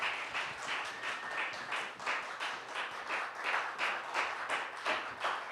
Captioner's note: applause